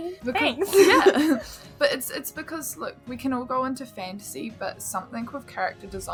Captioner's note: laughs